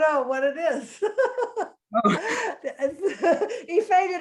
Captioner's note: laughing